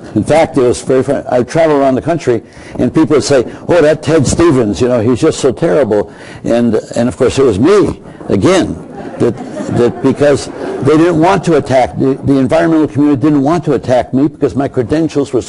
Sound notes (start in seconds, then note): 7.9 crowd laughing